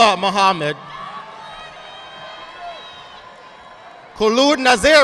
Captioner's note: audience applauding